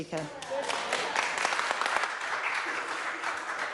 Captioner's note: clapping